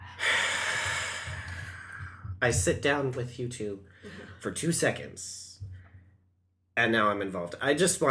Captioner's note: also sighs; sighs